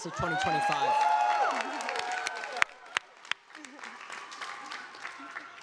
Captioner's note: audience applauding